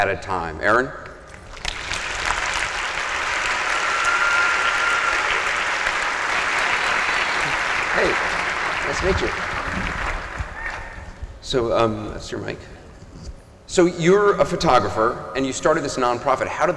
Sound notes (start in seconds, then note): 1.3 applause and cheers